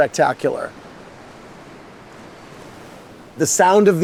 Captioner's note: waves lap in the distance